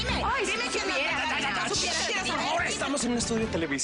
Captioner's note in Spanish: Discuten a gritos